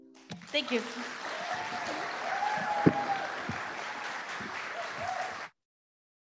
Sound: applause

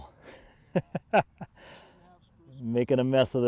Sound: laughs

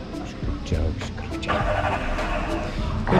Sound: car engine starts

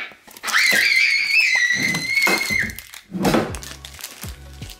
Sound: child screaming

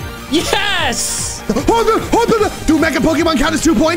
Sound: stammering

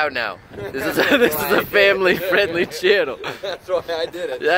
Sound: laughter

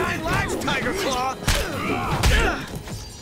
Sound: grunting

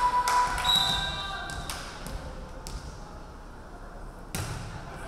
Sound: referee whistling

